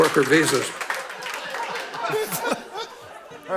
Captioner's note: laughter